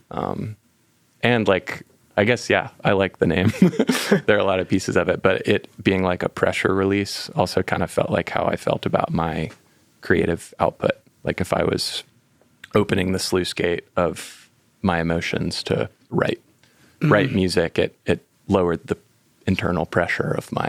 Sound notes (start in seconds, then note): 3.4 laughing